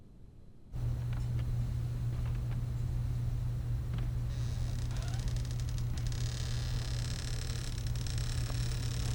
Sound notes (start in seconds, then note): 4.3 door creaks